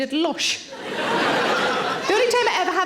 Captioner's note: audience laughing